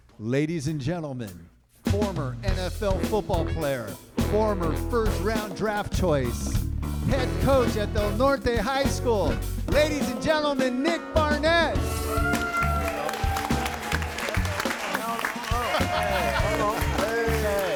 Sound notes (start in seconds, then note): 11.9 audience cheering and applauding; 15.2 laughing; 15.2 mellow music